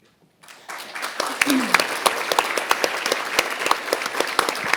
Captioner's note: audience applauding